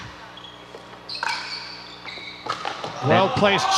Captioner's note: ball bouncing